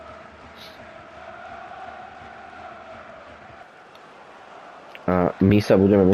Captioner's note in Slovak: Potlesk